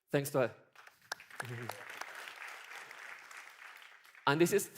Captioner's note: applause